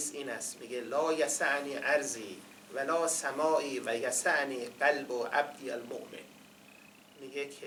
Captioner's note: quoting in Arabic